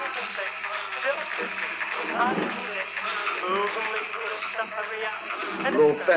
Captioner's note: sound of rowing; gasping